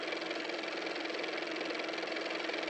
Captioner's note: car motor